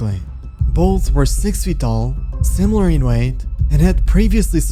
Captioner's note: deep hit